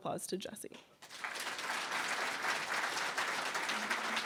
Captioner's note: applause